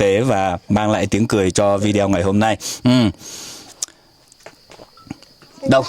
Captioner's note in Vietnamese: khịt mũi